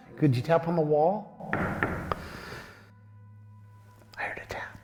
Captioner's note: tapping